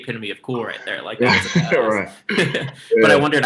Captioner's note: both laugh